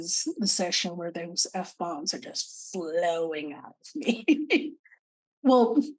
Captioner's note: laughing